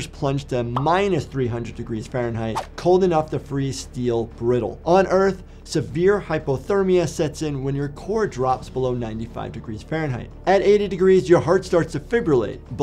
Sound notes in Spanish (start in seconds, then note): 2.5 transición silbante